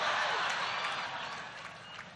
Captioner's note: laughter